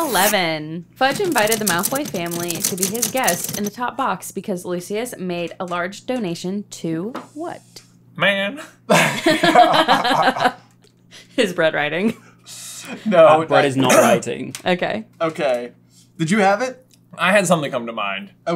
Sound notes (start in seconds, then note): 8.9 laughter